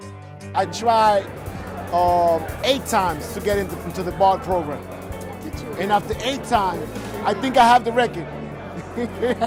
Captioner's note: laughs